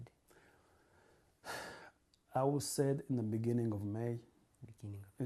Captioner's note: sighs